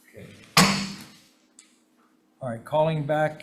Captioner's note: gavels pounds